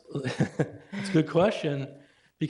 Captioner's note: laughing